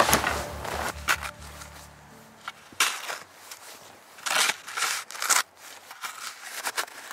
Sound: sound of shoveling snow

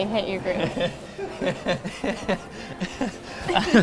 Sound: laughs

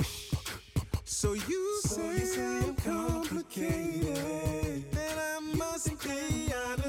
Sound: man beatboxing

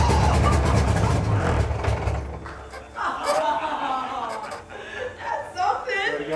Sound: engine dying; team members laughing

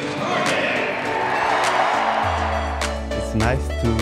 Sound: cheers and applause

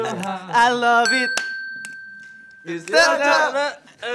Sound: speaking in foreign language; dinging

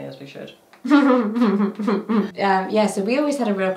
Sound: giggling

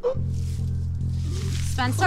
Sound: gasping

